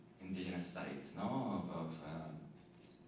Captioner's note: none